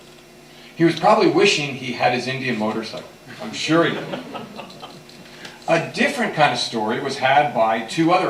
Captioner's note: laughter